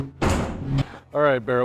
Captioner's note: lid shutting